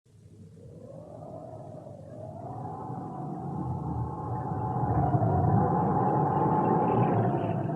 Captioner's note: SFX: wind blowing